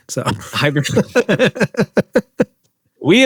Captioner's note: laughter